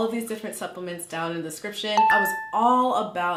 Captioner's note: beeping